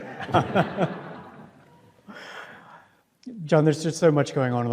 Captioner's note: audience laughs